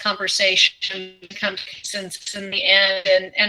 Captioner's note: audio glitch